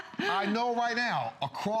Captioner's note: laughter